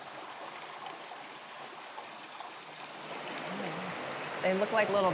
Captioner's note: water rushing